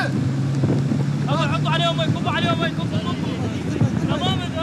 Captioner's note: Arabic spoken audio